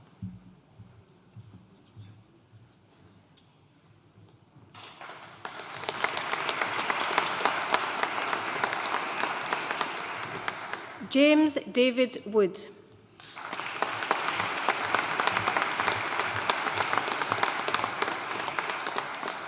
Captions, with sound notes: James David Wood. (AUDIENCE APPLAUDING)